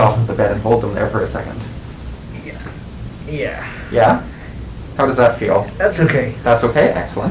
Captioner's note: groaning